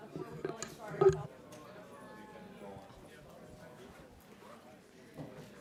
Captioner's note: chatter